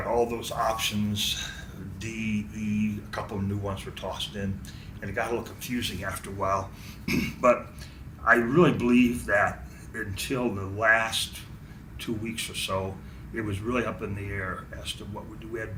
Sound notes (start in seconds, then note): 7.0 clears throat